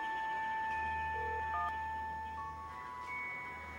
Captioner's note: dialtone drones